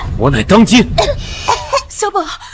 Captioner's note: cough, cough, cough